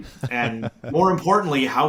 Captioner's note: laughing